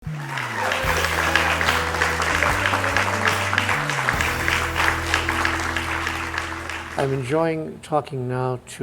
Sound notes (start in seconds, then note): 0.1 relaxing music plays; 0.2 crowd cheers